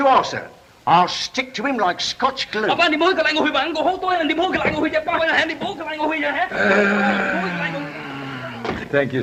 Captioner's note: Lee speaks Chinese